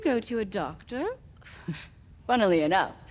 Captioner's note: character chuckles